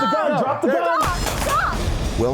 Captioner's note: gun bangs